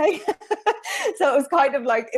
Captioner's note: chuckles